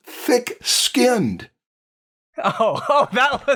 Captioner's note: laughs